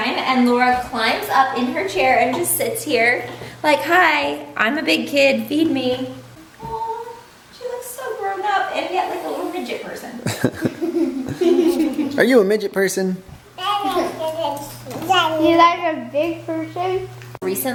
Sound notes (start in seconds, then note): 10.2 kids laugh